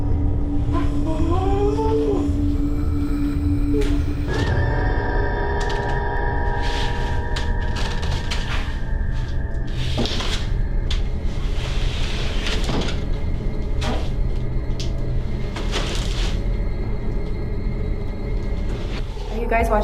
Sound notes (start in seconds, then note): 0.8 Scott whimpering; 4.7 tense menacing music